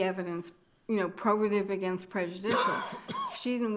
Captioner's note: attendee coughing